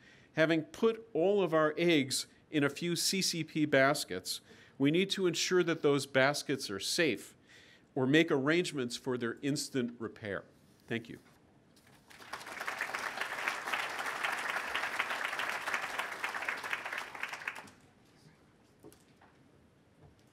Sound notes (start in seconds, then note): 11.9 applause